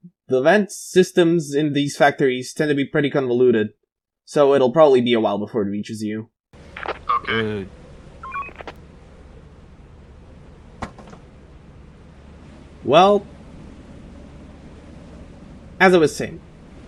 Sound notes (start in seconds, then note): 6.7 Walkie Clicks; 8.2 walkie Beeps